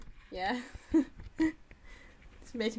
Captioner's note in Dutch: lacht